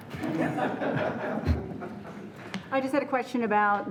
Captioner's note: laughing